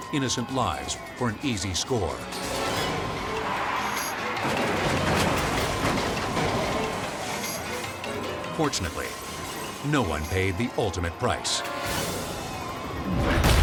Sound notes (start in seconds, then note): 4.2 dramatic music; 4.2 vehicles crashing